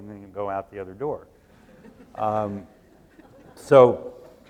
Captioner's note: laughs